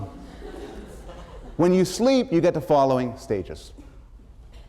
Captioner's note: laughter